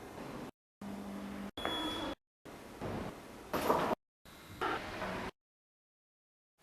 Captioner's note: ward noises cut in and out